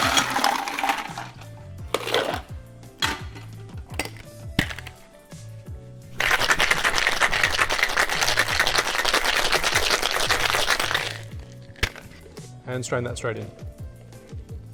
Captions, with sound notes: (ice clanking) (cocktail bottle shaking) And strain that straight in.